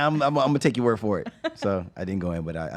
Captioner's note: laughs